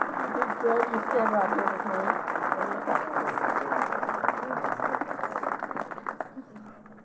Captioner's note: applause